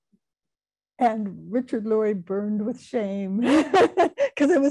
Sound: laughing

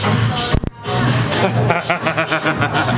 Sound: laughing

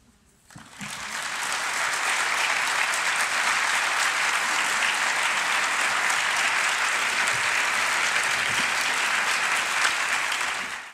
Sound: applause

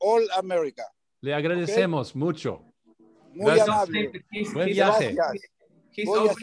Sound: speaking foreign language

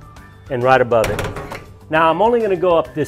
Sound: metal clinking

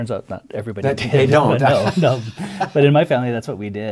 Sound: laughter

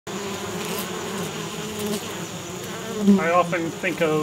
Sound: bees buzzing

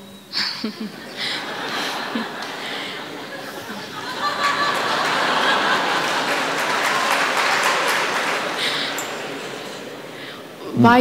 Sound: laughter/Applause

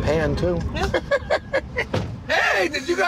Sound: laughing

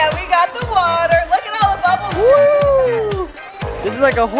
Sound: whooping

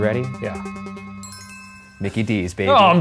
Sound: bell ringing

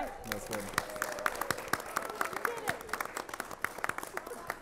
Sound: audience applauds

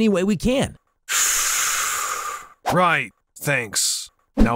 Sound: exhales

